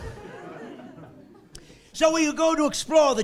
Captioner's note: laughing